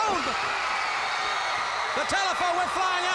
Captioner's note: crowd cheers